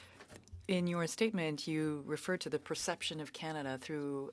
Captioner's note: speaking French